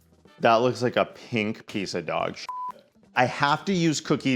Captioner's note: beep